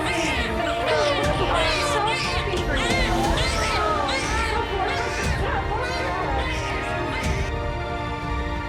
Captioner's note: Tiếng em bé khóc